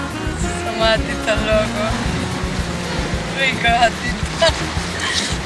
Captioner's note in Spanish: risas